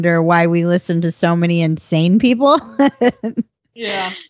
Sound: laughs

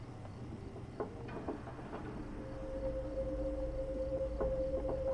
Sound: faint knocking

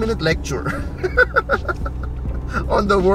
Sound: laughs

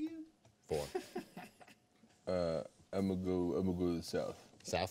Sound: man laughing

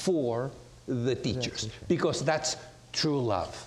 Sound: none

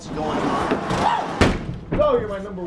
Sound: screams

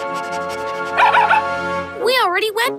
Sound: barking

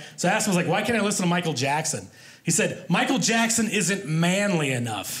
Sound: none

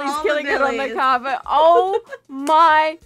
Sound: laughter

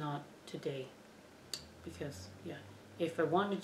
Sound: tongue click

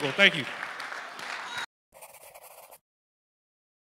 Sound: applause

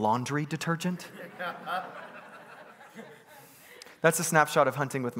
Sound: congregants laughing

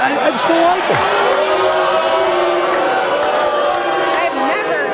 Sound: audience boos

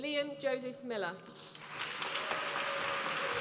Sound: applause

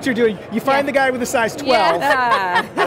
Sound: crowd giggles

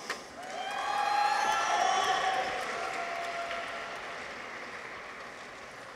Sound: people cheer; audience applauds

